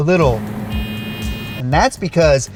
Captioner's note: shift buzzing